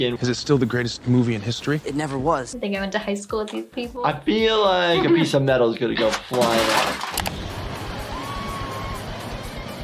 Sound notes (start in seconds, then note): 6.0 metal clanging